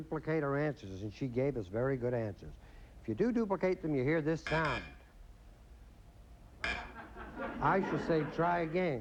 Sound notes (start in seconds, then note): 4.2 buzz buzz; 6.6 buzz